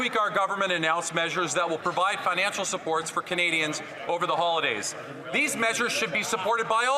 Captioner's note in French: voix de l'interprète